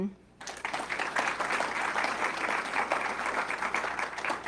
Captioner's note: audience clapping